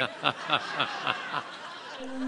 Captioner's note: laughter